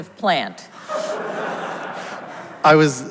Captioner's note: audience laughs